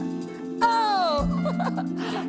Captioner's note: laughing